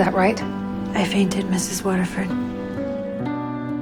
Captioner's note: voiceover